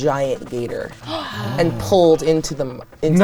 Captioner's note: group gasps